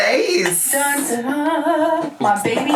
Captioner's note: humming